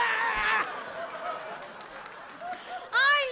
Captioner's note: audience laughing